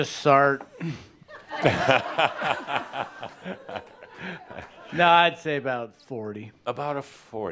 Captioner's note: laughter